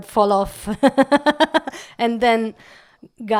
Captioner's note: laugh